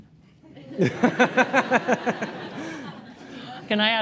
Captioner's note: laughter